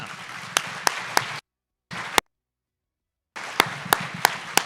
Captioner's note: audience applause